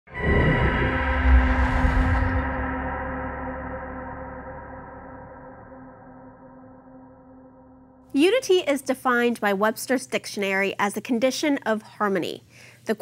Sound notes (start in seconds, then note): 0.1 echoing vibration